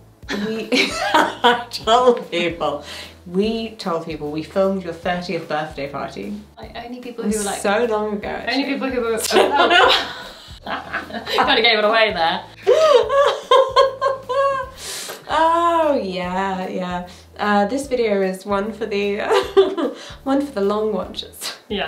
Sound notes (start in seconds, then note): 0.3 laughing; 9.2 both laughing; 12.6 laughing